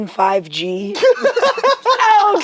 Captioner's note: laughs